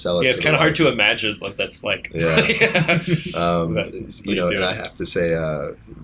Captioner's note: laughter